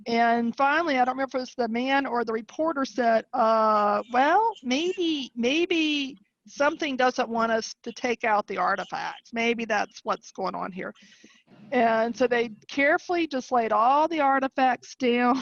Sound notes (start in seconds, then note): none